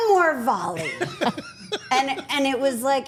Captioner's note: Paul and Elyse laughing